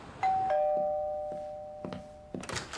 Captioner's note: doorbell rings